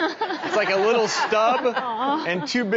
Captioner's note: audience laughing